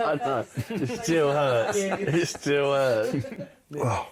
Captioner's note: laughter